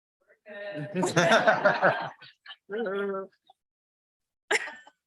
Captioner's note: crowd laughing